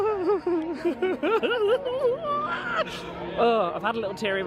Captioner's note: chuckles